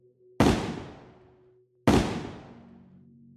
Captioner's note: gunshots